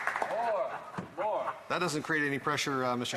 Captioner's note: applause